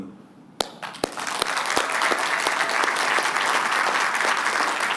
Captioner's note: applause